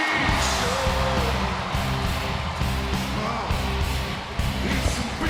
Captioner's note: crowd cheers